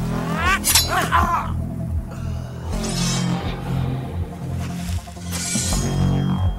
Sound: groans; henchman grunts; sword slashing

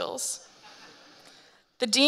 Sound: audience laughing

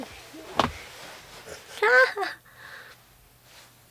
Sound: hehe

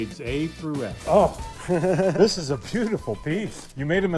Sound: laughs

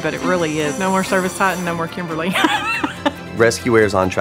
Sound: laughs

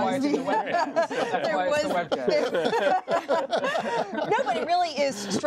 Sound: laughter

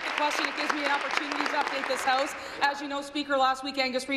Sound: applause

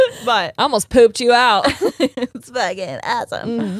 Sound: both laughing

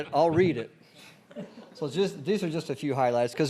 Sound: laughter

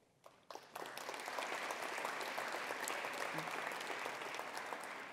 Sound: attendees applauding

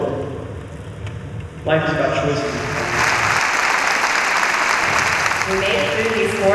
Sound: applause

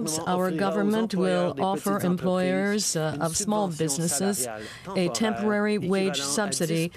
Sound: speaking French

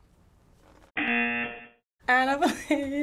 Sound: buzzer

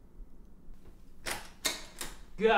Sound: door opens

